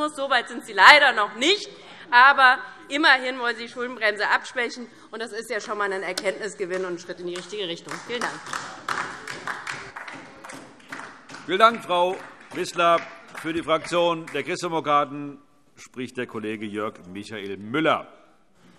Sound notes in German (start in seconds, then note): 7.8 Beifall DIE LINKE